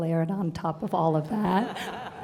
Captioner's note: laughter